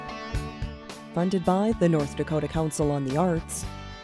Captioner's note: voiceover